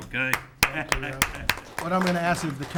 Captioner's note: audience clapping